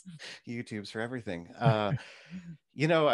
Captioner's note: laughs